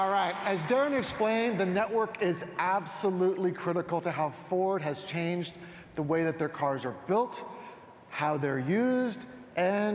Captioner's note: applause